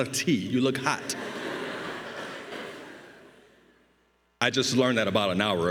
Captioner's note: crowd laughing